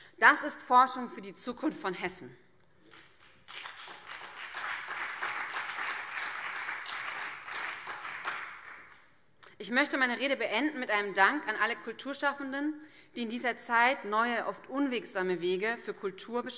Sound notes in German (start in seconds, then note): 2.8 Beifall BÜNDNIS 90/DIE GRÜNEN und vereinzelt CDU